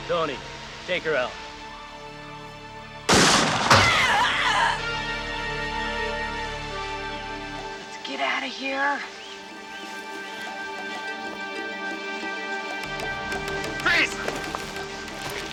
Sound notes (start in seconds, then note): 3.1 gun firing; 3.9 woman groaning